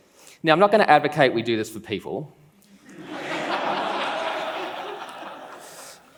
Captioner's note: laughs